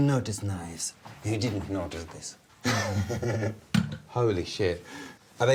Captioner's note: laughs